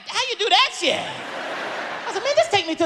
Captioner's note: audience laughs